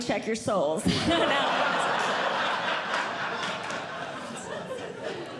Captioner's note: audience Laughing